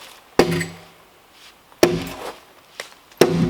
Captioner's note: ax thumping